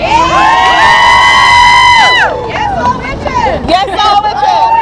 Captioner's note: cheering